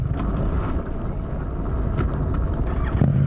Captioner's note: stalls from low revs